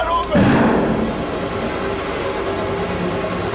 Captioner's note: gun firing; high-tension music